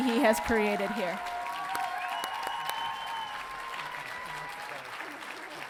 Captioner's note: audience cheering